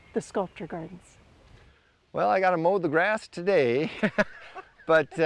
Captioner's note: laughs